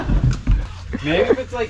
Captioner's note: girl laughs